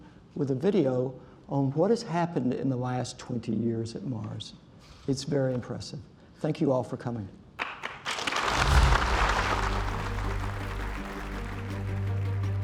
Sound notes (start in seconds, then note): 7.6 applause